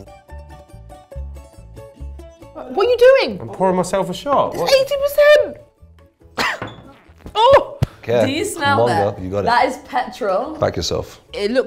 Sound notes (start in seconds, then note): 0.1 lively music; 6.3 coughs; 6.4 bottle thuds